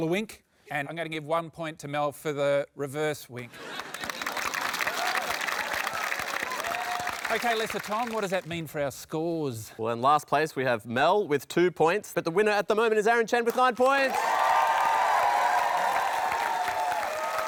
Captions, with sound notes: and I'm going to give one point to Mel for the reverse wink. (APPLAUSE) OK, Lesser Tom, what does that mean for our scores? Well, in last place, we have Mel with two points. But the winner at the moment is Aaron Chen with nine points!